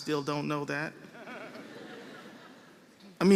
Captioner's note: laughter